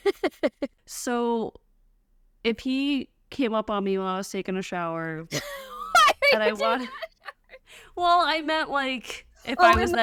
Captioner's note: laughter